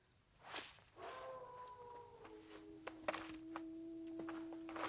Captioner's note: wolf howling